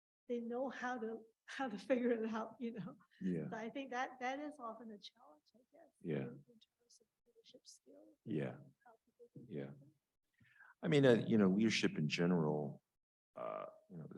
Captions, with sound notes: they know how to figure it out, you know? But I think that that is often a challenge, I guess, nurturing their leadership skills. (faintly speaking) - I mean, you know, leadership in general, you know,